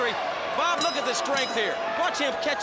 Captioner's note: bell ringing